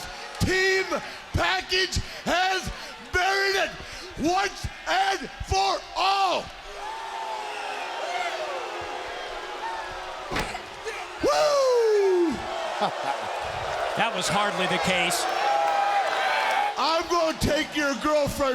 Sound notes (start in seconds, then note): 7.3 crowd cheering